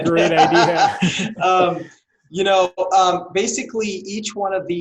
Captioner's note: laughing